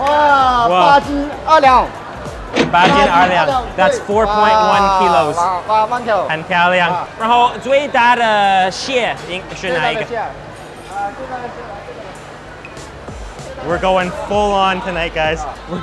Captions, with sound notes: (register chiming) That's 4.1 kilos. We're goin' full on tonight, guys.